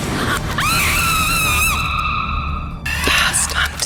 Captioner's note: screaming